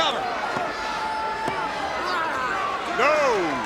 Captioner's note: countdown thudding; Ric exclaiming